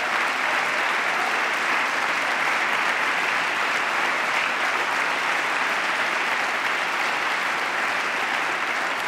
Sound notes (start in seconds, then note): 0.0 applause